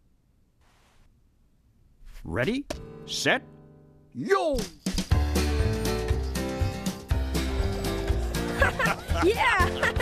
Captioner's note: laughing